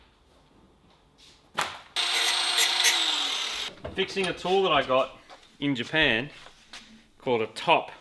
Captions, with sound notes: [angle grinder] Fixing a tool that I got in Japan, called a 'top.'